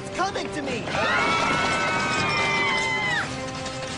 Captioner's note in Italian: urla